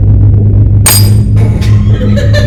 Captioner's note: gun dry fires; guard laughs